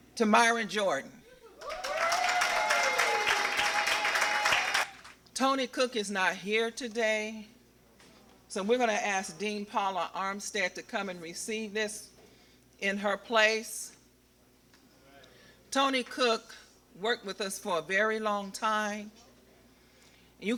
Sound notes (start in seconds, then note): 1.6 applause